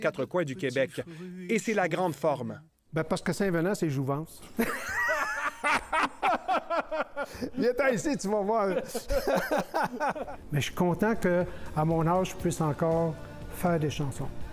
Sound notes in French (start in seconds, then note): 5.1 rires